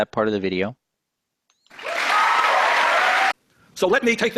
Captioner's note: cheers and applause